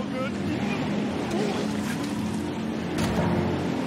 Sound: vomiting

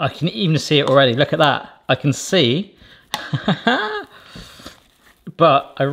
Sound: laughs

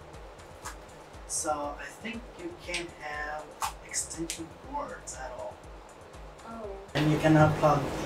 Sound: popping knuckles

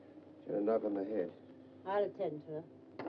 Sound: none

